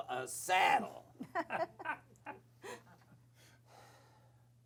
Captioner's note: laughter